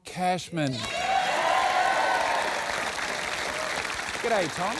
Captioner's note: cheering and applause